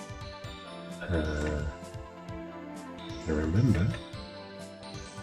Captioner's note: speaking faintly